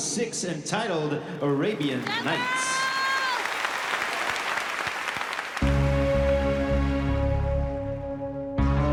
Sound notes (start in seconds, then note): 1.5 applause; 5.6 dramatic music plays